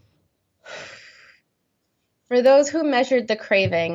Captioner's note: breathing deeply